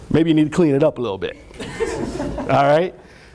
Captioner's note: laughter